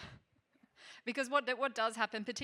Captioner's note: chuckling